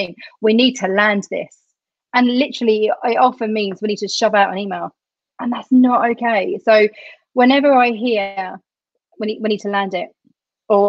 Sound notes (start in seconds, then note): none